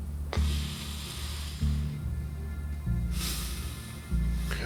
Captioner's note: breathes deeply